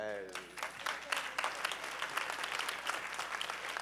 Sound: applause

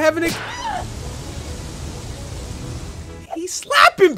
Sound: girl screams

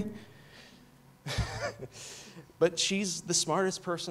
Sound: laughs

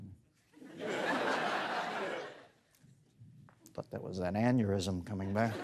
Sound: laughter

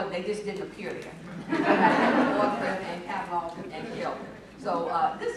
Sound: laughter

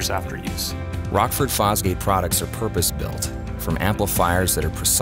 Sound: voiceover

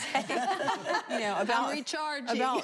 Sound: laughter

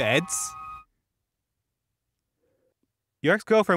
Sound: pregnant pause

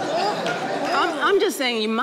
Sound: audience laughing

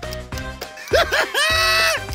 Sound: laughing

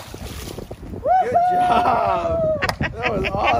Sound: cheers

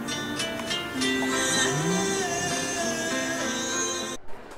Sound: humming along

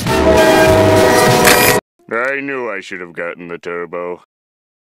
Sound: crack

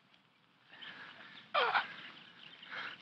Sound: groaning

